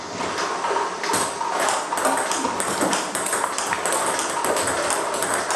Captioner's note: ball ping pong hitting continues